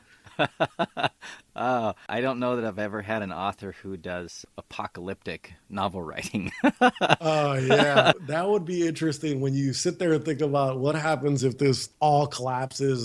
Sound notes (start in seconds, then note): 0.3 laughs; 6.4 laughs again